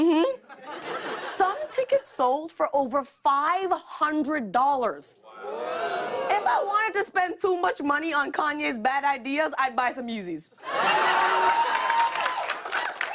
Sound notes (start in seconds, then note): 4.6 audience ohs; 10.6 laughter and applause